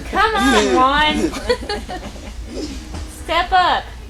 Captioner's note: laughter